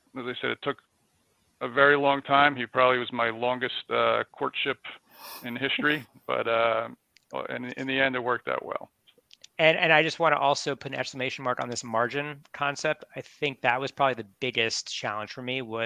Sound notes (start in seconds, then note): 5.2 laughs